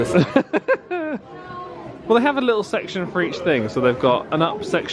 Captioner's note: laughs